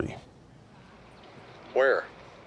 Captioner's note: on phone